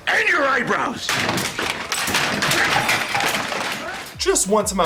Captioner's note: crashing sounds